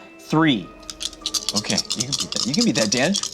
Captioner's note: dice clattering